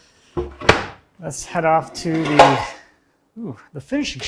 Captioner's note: wood clacking